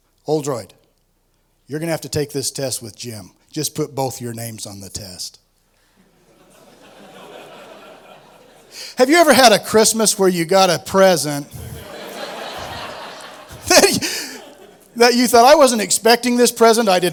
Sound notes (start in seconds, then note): 6.1 laughter; 11.5 laughter